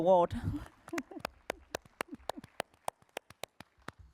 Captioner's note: applause